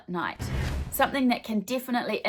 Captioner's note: swooshing